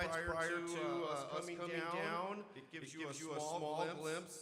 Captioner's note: none